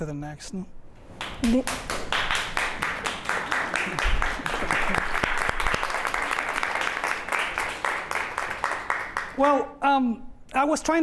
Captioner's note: applause